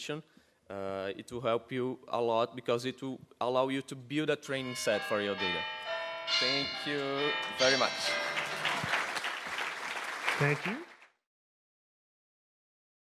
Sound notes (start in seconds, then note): 4.6 bells ringing loudly; 7.5 audience applauds